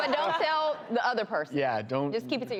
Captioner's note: audience laughs